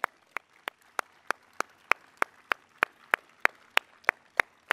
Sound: audience applauding

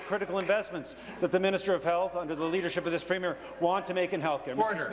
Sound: applause

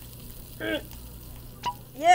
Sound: grunting; cork pops

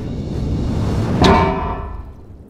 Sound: clang!!

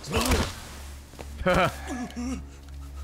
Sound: laughs

